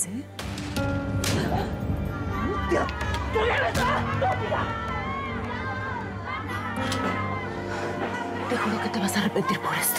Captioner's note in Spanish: bofetada